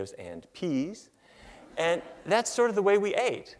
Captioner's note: laughter